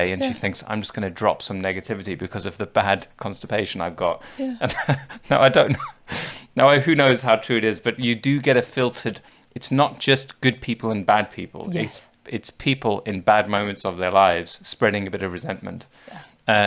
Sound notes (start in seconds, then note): 4.3 laughs